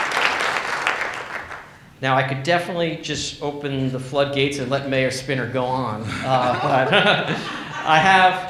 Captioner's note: laughs